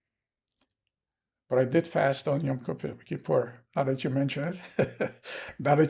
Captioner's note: laughing